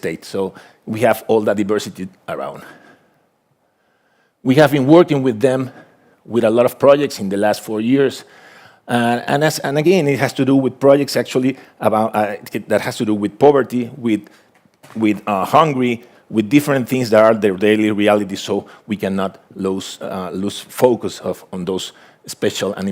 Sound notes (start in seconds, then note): none